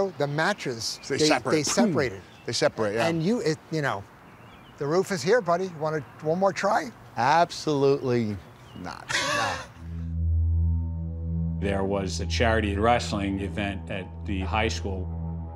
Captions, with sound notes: the mattress, they separated. - They separate, yeah. - And you--you know. The roof is here, buddy. Want to--one more try? - Absolutely not. - [laughs] - Not. - There was a charity wrestling event at the high school.